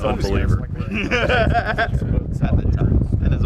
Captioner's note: laughing